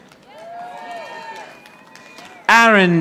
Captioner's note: audience applauding